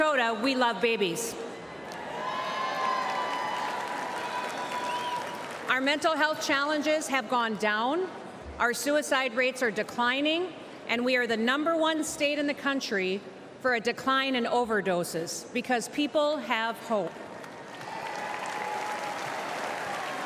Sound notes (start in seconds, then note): 0.2 applause; 5.0 cheers and applause